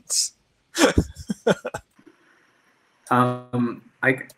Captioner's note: laughing